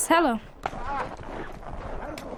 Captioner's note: boy's English Voiceover